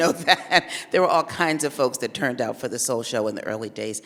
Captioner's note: laughs